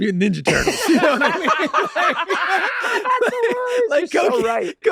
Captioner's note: all laughing